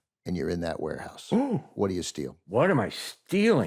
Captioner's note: gasps